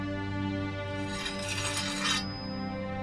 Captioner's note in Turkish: Bileme sesi